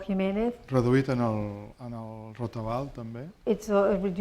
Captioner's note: speaking spanish